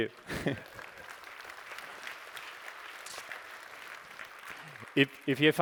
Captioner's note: applause